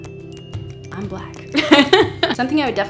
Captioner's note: laugh